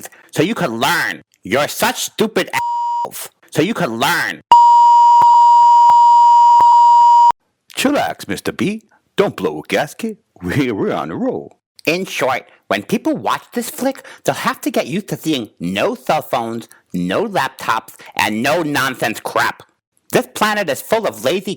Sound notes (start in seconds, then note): 2.6 beep; 4.5 program beeping